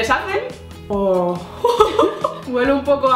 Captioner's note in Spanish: Uohh